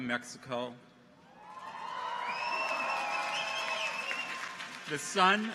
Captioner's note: people cheer; audience applauds